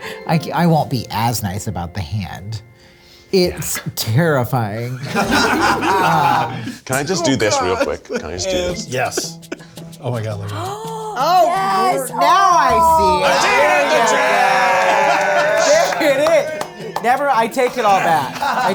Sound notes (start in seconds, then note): 5.0 all laugh